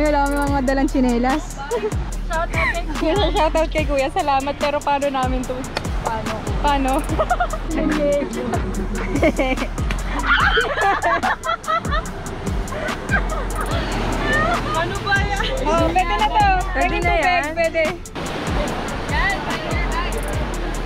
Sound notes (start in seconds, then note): 10.2 screams; 11.0 laughs